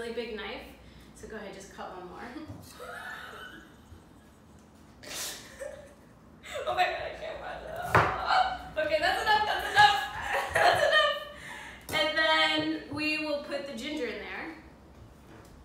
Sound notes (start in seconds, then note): 2.7 laughter; 7.8 chopping sound; 8.4 exclamation; 11.9 laugh